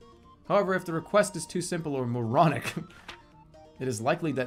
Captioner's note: chuckles